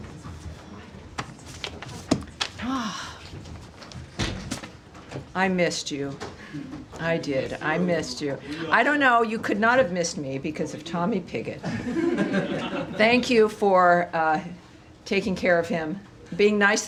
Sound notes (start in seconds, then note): 11.6 laughter